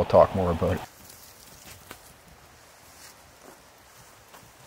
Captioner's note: water running